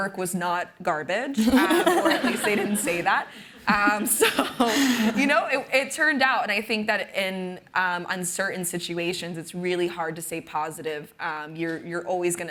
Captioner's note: laughter